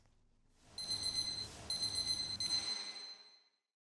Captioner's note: logo ringing